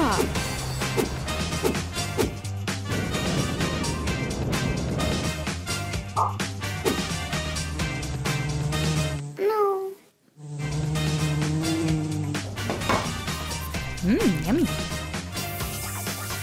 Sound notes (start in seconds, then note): 8.8 buzz